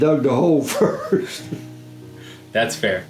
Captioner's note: chuckling